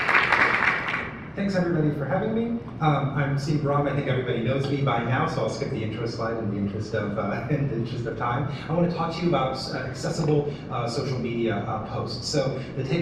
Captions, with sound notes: [Applause] Thanks, everybody, for having me. I'm Sina Bahram. I think everybody knows me by now, so I'll skip the intro slide in the interest of time. I want to talk to about accessible social media posts.